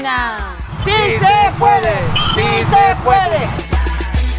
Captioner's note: speaking in native tongue